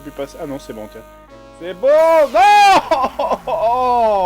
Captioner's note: sob